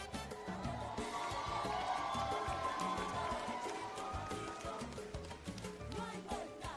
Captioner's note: cheering and Applause